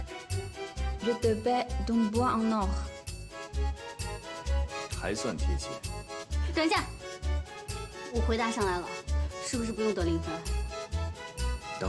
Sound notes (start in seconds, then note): 0.8 French